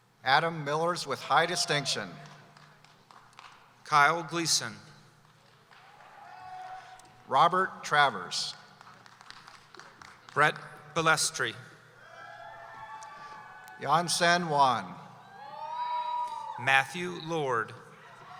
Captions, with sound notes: - Adam Millers, with high distinction. - Kyle Gleason. - Robert Travers. - Bret Balestri. (cheering) - Yancen Wan. - Matthew Lord.